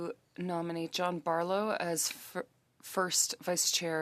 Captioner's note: speaking French